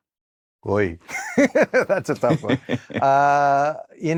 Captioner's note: laughs